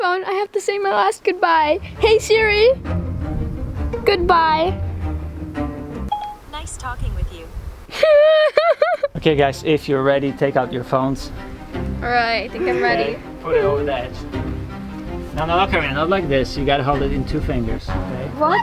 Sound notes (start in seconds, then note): 7.9 laughs and cries at the same time